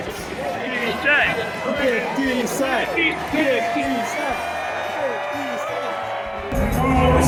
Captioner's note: ”50 Cent” chants